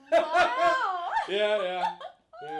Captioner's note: laughing